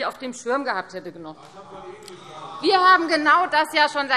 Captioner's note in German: Zurufe: Ah!